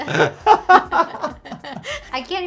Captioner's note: both laughing